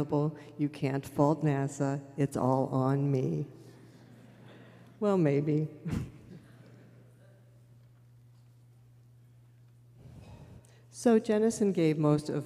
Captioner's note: laughter